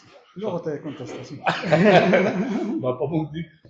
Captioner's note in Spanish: risas